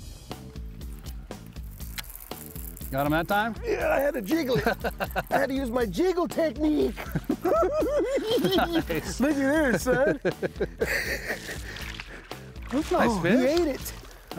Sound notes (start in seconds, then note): 0.1 funky rock music; 3.6 laughing; 7.8 cackling